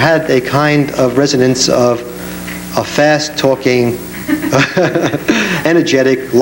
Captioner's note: laughs